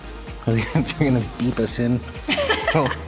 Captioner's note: laughing; everyone laughs